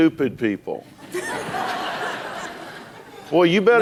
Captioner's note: laughter